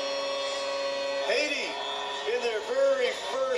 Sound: goal horn blasting

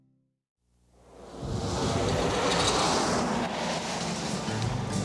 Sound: car engine roaring

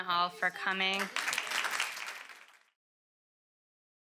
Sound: applause

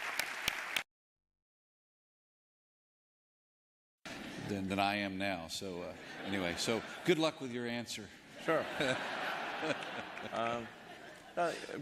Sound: applause

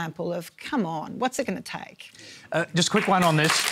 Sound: applause

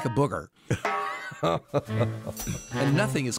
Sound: laughs

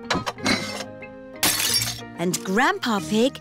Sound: shattering

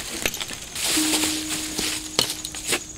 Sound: footsteps stop

